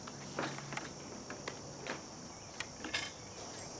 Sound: tent rustling

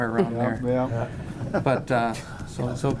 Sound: laughing

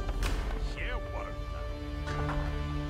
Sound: townspeople chattering

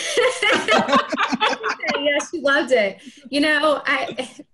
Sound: everyone laughing

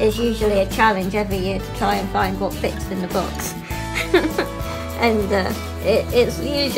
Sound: laughs

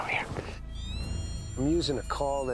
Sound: rabbit call

